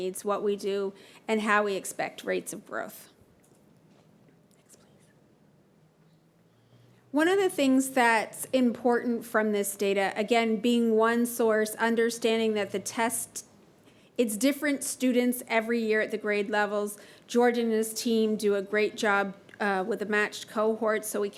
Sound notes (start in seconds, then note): 4.2 whispers